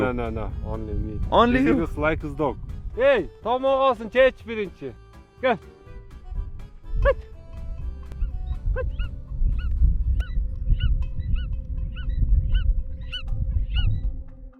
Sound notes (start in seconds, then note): 2.8 speaking in Kyrgyz